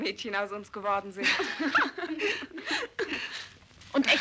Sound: women laughing

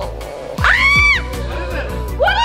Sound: screaming

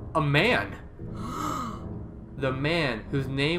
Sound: gasp

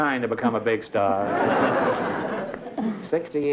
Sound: laughter

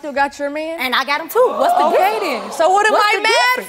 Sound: audience oohing

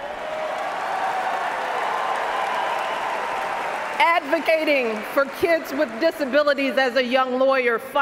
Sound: cheers, applause

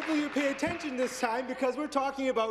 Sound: applause

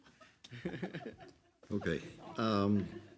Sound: all laugh loudly

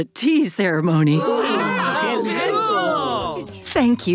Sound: chattering

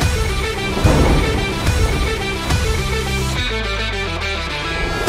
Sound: thunder cracking

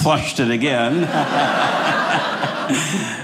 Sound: audience laughing

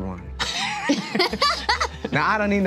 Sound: laughter

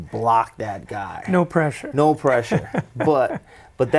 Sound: chuckling

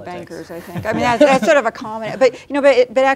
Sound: laughing

